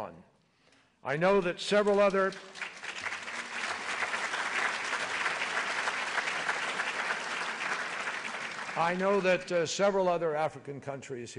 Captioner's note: applause